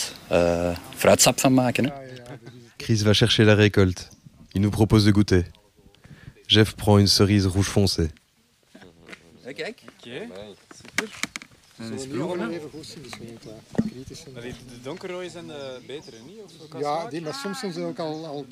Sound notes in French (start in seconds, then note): 10.1 Bruits de conversations indistinctes en néerlandais